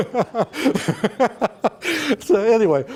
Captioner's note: laughter